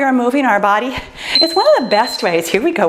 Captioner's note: timer beeps